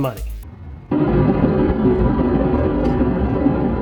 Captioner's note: explosion